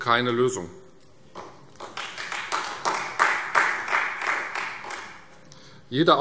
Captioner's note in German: Beifall Freie Demokraten